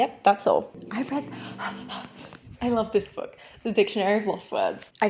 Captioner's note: excited breaths